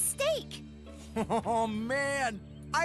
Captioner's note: Chris Chuckles